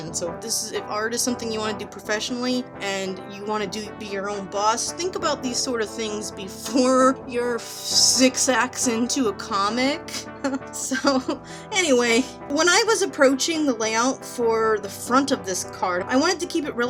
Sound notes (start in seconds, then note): 10.2 laughs at self